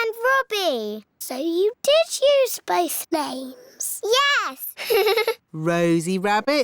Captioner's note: laughs